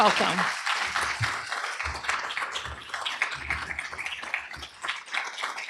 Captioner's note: applause